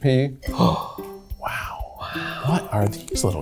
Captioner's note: gasps